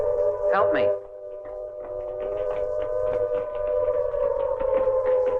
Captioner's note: footsteps tapping